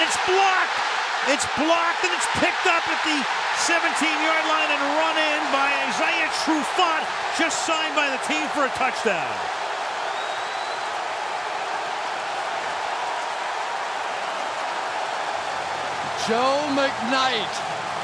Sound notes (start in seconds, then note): 9.8 cheering